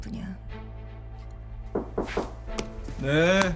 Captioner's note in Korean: 노크 소리